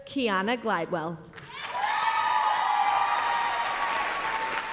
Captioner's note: applause, cheering